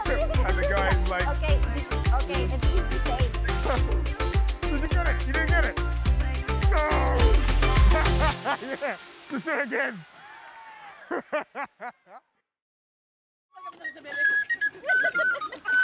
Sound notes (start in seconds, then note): 7.8 laughter; 10.7 laughter; 13.6 flute playing